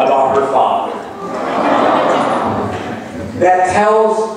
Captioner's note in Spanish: laughs